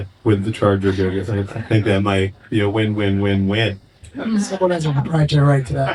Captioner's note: chuckles; laughing